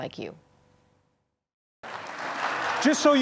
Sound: applause

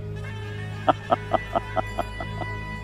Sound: evil laughter

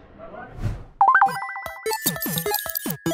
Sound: UI beep; chirpy, 8-bit style music; glitchy typing; chirpy, 8-bit style music

